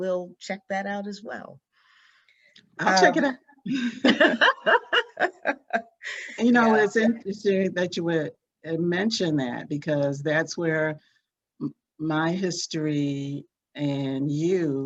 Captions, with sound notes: will check that out as well. - I'll check it out. (both laughing) And, you know, it's interesting that you mentioned that because that's where my history and you coincide